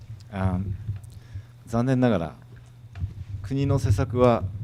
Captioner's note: speaking foreign language